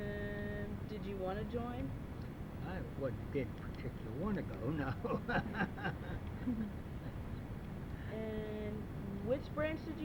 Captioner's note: laughs